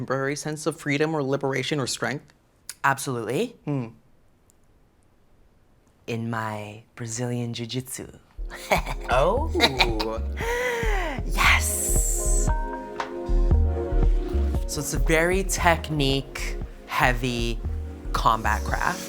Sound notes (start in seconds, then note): 8.5 cheeky laugh